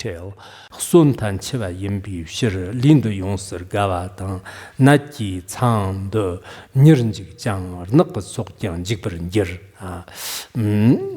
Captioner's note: giving oral transmission in Tibetan